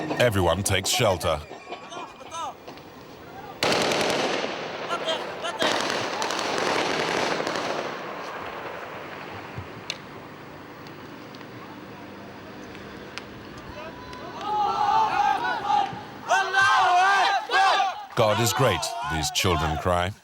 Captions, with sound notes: Everyone takes shelter. [Hebrew spoken audio] God is great, these children cry.